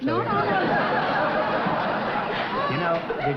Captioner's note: laughter